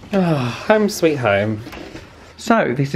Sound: sighs

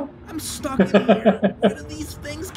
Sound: chuckles

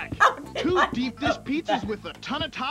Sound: laughs

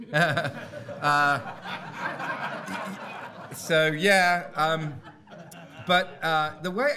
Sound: audience laughing

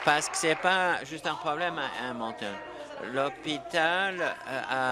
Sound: applause

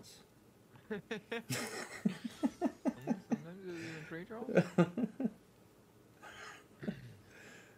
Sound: both Laughing

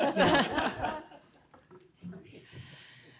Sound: laughter

